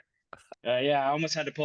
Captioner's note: laugh